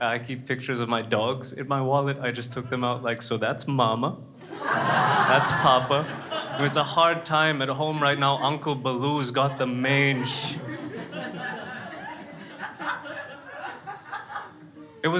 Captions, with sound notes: And I keep pictures of my dogs in my wallet, I just took them out like, so that's Mama (crowd laughing) That's Papa, it's a hard time at home right now, Uncle Baloo's got the mange.